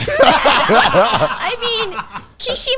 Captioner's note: everyone laughing